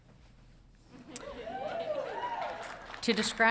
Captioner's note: audience cheering